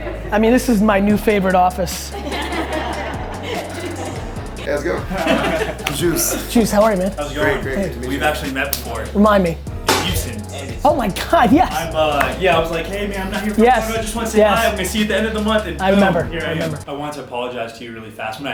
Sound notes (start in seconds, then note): 1.7 group laughter